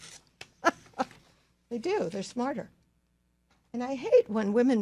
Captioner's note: laughs